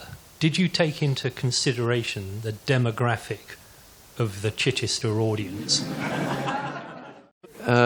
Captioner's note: laughter